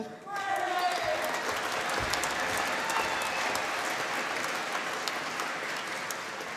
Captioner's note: applause